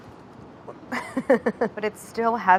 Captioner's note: laughs